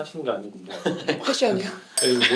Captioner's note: laughter